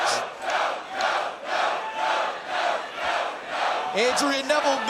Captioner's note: crowd chants "No"